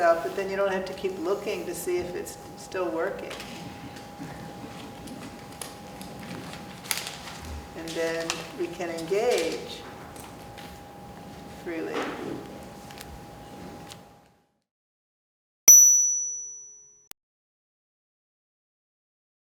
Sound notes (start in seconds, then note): 15.7 bell chimes